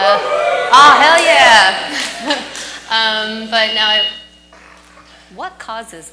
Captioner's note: crowd cheers; microphone screeches